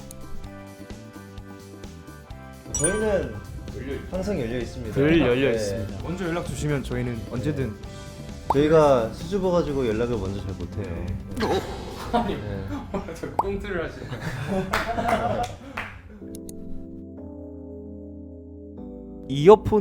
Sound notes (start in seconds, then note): 14.0 laughs